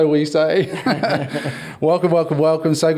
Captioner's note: all laugh